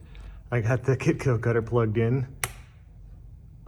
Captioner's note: switch clicks